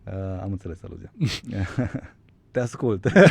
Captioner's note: laughter